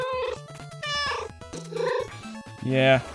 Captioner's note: meow, meow